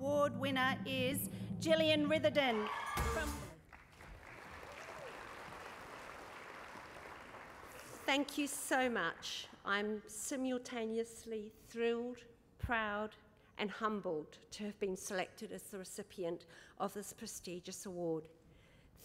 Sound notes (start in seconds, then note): 3.4 applause